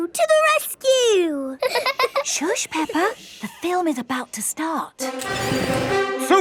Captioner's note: both laughing; heroic music